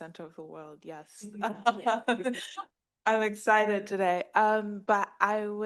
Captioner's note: laughs